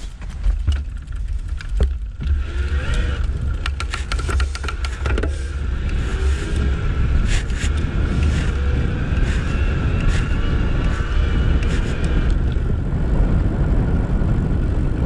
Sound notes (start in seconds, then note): 2.5 motor whirring; 11.5 wind rustling